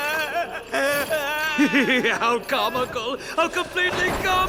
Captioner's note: Subaru crying louder; laughs